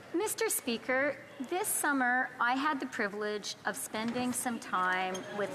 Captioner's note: speaking French